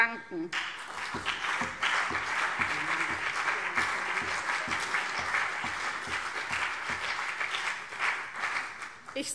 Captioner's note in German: Beifall CDU und BÜNDNIS 90/DIE GRÜNEN